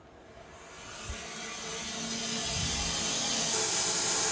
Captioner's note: blade sawing